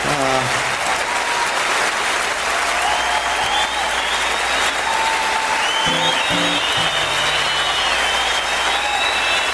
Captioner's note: keeps applauding